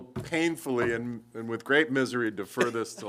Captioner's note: laughter